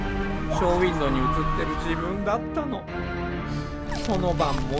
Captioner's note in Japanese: 叫び声